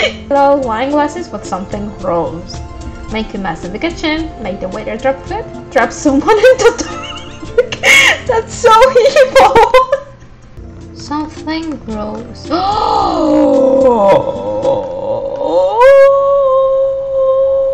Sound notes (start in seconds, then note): 6.9 wheeze; 12.5 gasps